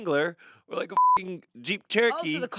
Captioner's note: beep